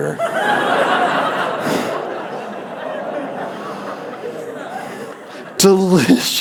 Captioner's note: laughter